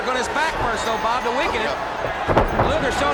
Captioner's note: body thudding